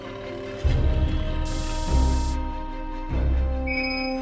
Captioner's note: text scrolling sound; high-pitched beeping